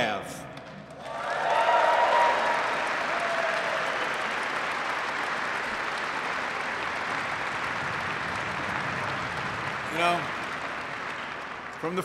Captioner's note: applause